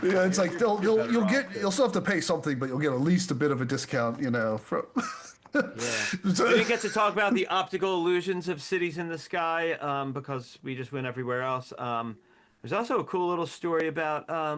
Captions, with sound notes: It's like, you'll still have to pay something, but you'll get at least a bit of a discount, you know. (Laughs) We get to talk about the optical illusions of cities in the sky, because we just went everywhere else. There's also a cool little story about,